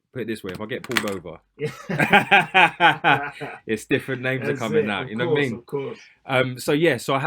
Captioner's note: laughter